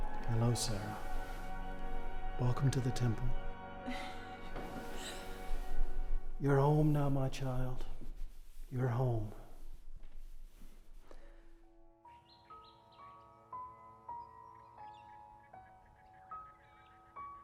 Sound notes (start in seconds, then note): 11.1 gentle music; 12.0 birds chirping